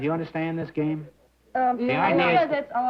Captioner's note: chatter